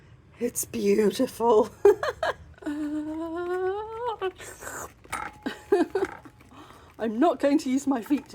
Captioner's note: laughing; slurping sound